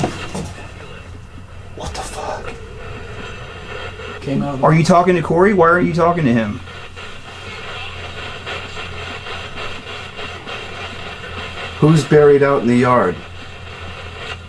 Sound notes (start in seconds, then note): 7.6 radio static hisses